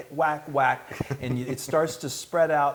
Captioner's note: laugh